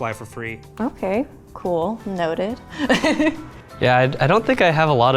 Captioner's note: laughs